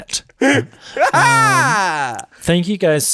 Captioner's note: laughing aloud